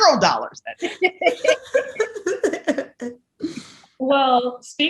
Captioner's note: all laugh